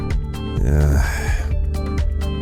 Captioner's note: sigh